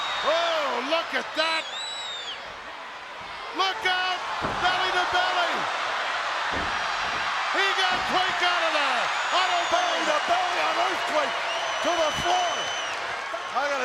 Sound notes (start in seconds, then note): 8.7 audience cheers